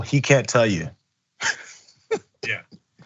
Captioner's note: laugh